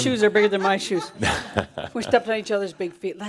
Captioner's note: Adamus chuckles